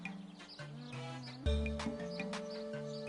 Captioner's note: cattle mooing